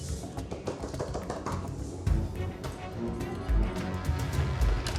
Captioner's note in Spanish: golpes; ruido al abrir